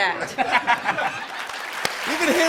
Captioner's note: applause